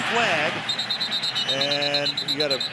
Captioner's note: whistle blows